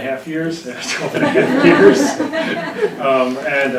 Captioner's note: audience laughing